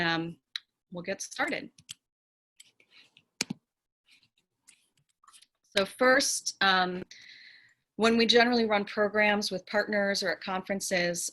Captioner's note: keyboard clicks